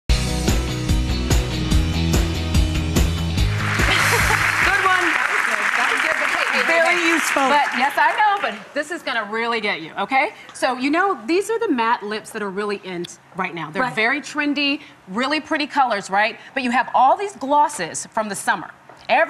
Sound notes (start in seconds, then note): 0.1 upbeat music; 3.4 applause